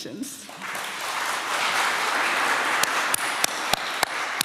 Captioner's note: applause